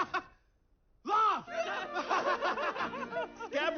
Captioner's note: laughs